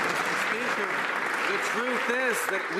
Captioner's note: some Applause